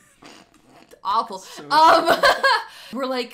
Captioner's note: laughing